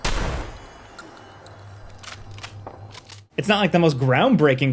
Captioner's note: gun clocks